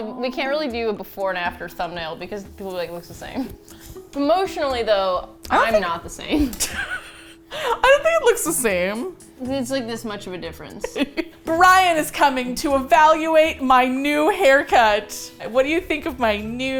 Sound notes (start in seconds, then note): 6.4 both laugh; 10.8 laughs